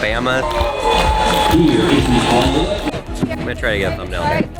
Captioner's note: background cheers from crowd